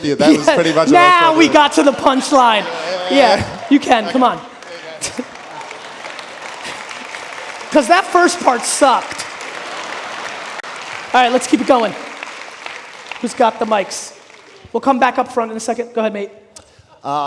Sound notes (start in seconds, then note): 3.1 audience laughing; 5.4 audience applauding